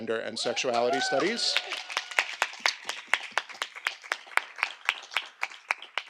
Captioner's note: audience applauding